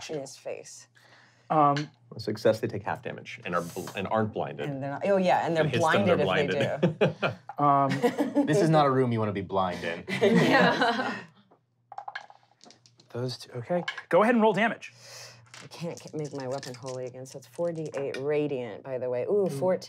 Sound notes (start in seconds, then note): 10.0 laughing; 11.9 rolling dice